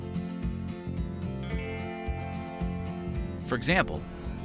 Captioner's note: digital device chiming